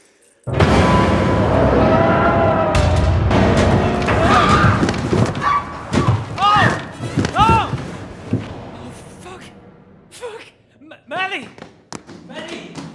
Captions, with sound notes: [Madeleine screaming] Ho! Oh... fuck. Fuck... Ma... Maddie!